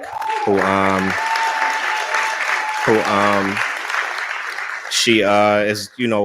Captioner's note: cheering